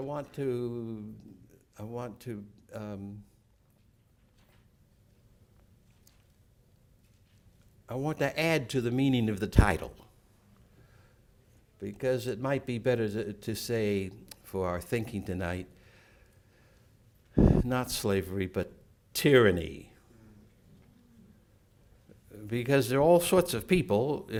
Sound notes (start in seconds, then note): 4.2 silence